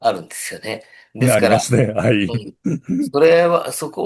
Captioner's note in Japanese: 咳払い